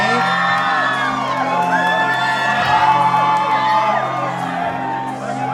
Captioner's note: cheering